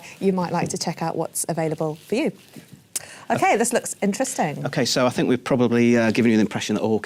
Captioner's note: none